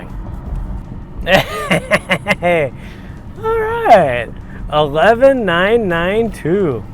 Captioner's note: laughs